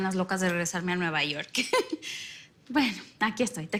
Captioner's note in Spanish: Risas